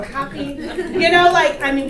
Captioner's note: audience laughter